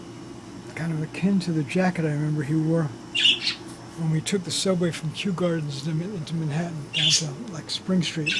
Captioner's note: bird chirps